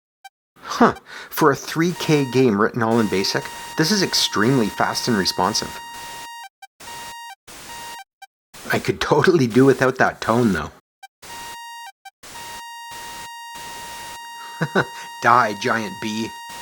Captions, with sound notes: Huh - for a three K game written all in BASIC, this is extremely fast and responsive. I could totally do without that tone, though. [long, high-pitched tone] [chuckles] Die, giant bee!